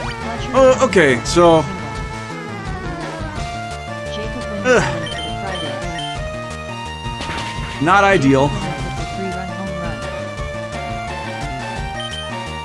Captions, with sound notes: Uh, okay! So... (groan) Not ideal.